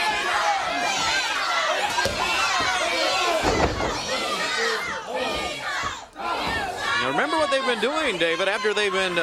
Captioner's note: crowd chatter